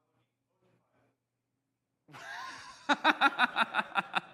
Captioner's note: laughing